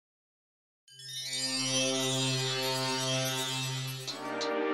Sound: magical chimes

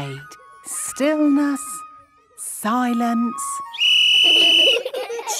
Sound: whistle blowing; laughter

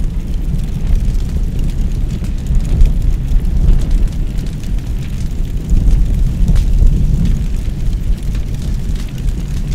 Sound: flames roaring

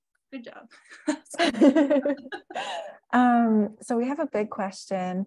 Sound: both laughing

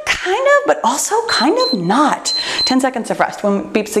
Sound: timer beeps

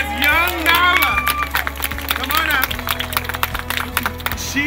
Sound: applause

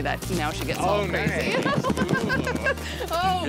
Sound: laughs

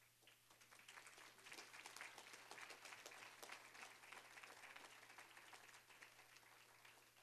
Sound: applause

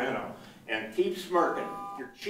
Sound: buzzer beeps

